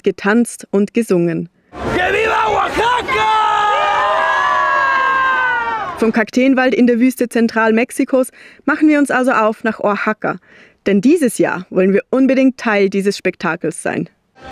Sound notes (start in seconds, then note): 1.7 crowd shouts; 1.9 in Spanish